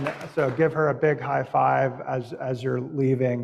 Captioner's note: applause